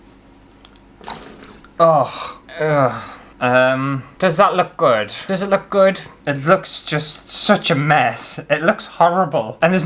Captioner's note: water Splash